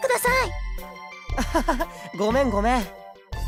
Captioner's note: slightly sheepish laugh